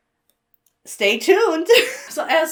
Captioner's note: chuckles